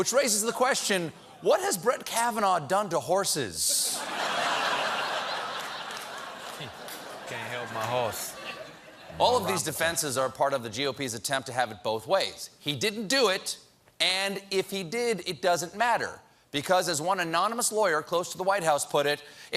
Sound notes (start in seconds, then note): 3.8 laughter